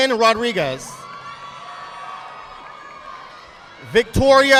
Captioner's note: audience applauding